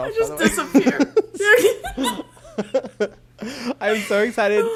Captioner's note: both laugh